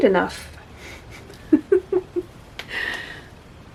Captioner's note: laughs softly